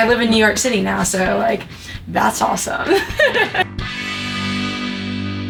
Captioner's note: laughs